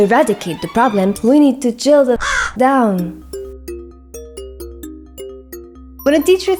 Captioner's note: caw